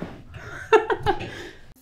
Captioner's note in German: Lachen